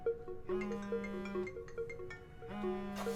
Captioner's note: phone rings